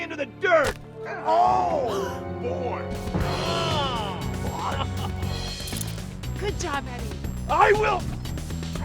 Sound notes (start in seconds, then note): 2.7 gasps; 4.3 fast-paced music